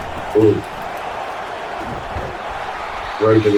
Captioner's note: crowd Noises